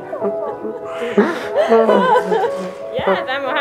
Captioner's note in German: Das Baby schreit